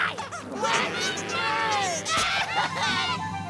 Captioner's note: crying